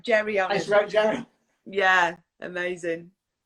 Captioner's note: laughs